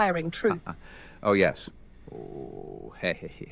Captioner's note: chuckles